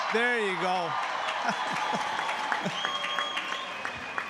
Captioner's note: cheers and applause